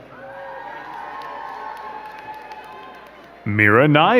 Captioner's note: crowd cheering and clapping